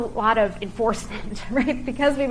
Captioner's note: chuckling